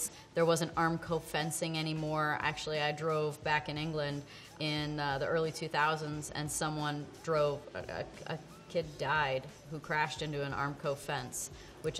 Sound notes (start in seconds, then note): none